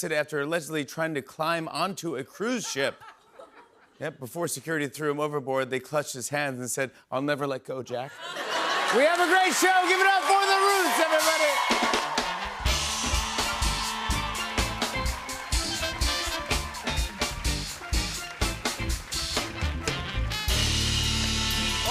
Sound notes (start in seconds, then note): 8.0 laughter; 11.6 cheers and applause